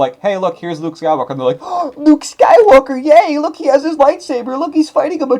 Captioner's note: gasp